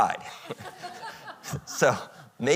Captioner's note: audience laughing